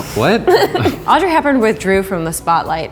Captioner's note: laughing